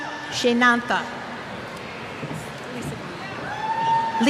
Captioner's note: cheers